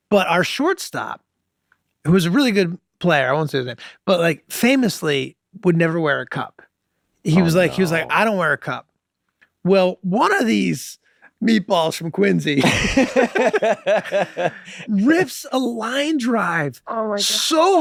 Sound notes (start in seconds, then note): 12.6 Glenn laughing